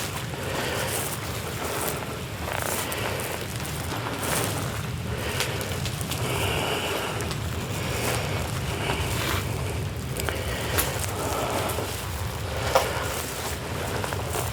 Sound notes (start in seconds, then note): none